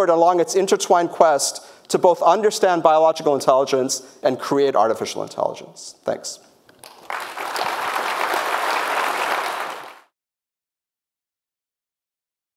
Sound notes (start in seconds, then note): 6.8 audience applauding